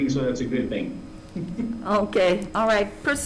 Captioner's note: he chuckles